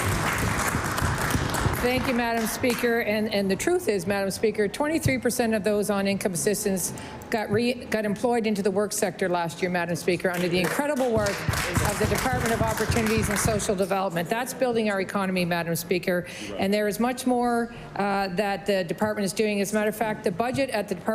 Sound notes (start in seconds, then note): 3.7 applause